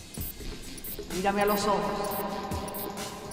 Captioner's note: echoed voice